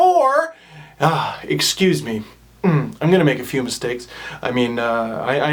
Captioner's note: sighs